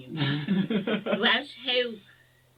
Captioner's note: laugh